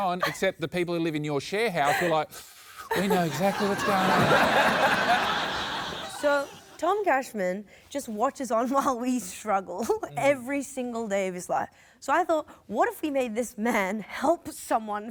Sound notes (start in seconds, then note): 4.5 laughter